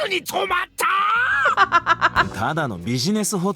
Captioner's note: chuckles